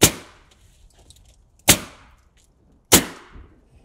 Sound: nail gun bangs

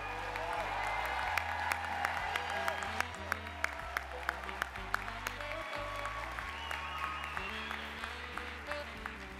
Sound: applause

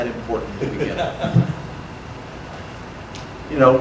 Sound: audience laughter

